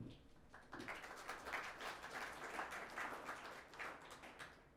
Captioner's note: audience applauds